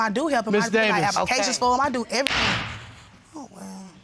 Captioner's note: bangs gavel